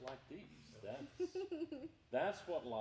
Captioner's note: laughing